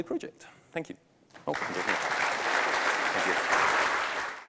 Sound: applause

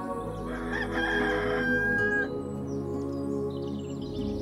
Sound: rooster crows

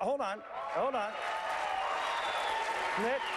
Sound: applause

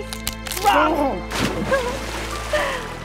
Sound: splash

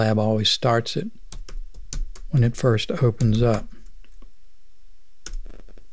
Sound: clicking

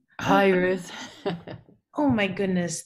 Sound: laughs

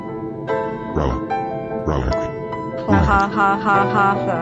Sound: low growling

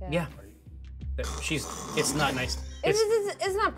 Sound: snores

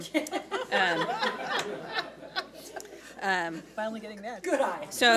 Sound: board members and attendees laughing

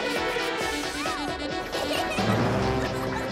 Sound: giggles

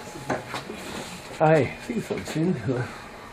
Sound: speaks German

